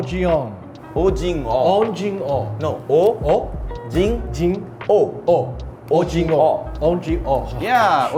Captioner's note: speaking Korean